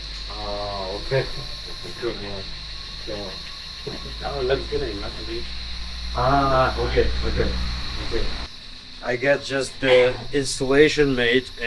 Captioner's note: crickets Chirping